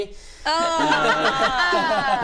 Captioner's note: regretful giggles